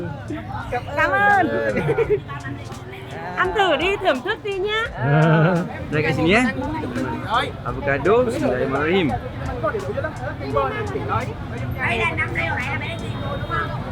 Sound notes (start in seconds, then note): 0.0 laugh; 0.2 speaking Vietnamese; 2.6 laugh; 2.6 speaking Vietnamese